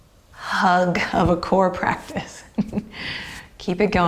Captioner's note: chuckles